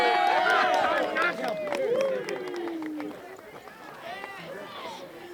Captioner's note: cheering